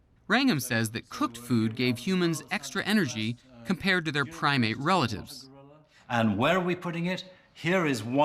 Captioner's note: none